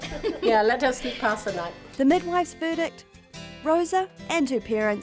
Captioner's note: laughter